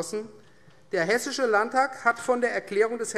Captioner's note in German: none